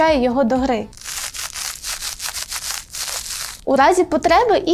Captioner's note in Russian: шелестит